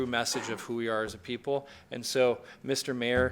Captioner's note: speaking in foreign language